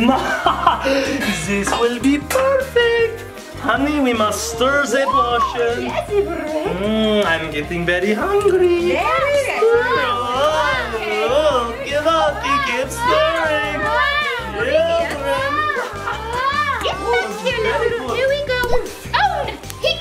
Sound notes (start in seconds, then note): 0.0 laughing; 6.1 gasps; 12.5 child shouting; 18.7 object plops